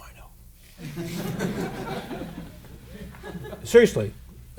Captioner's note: laughter